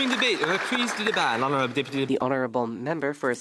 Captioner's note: some Applause